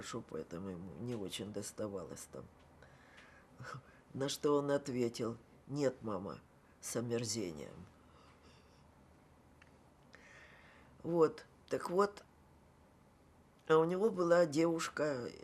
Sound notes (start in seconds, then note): 3.1 laughing